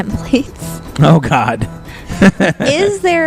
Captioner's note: laughs